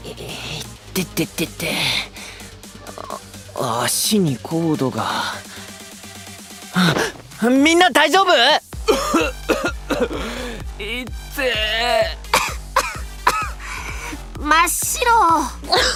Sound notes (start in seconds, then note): 8.8 coughs